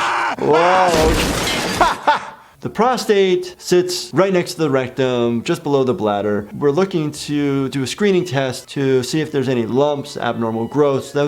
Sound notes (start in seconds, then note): 1.6 laughing